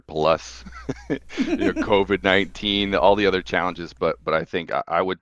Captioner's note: laughing